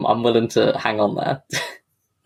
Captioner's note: laughs